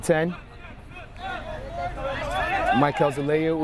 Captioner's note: players shouting